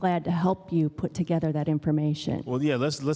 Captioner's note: none